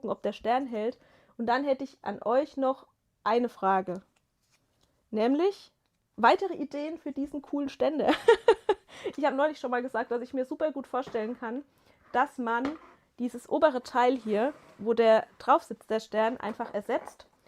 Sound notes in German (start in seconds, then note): 8.0 gelächter